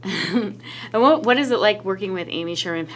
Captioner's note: laughs